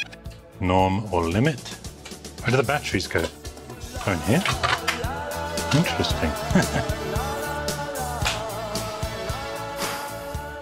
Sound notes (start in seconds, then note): 6.0 chuckles